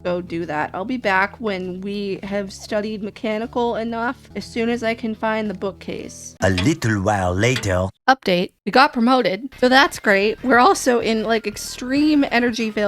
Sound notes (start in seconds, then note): 6.0 french accented male narrator voice